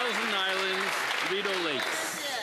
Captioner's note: some Applause